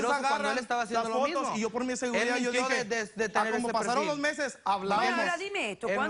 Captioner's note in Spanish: Hablan al unísono